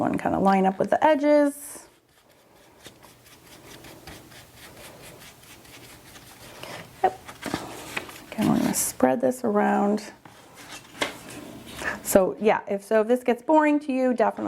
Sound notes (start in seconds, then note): 1.8 brush rasping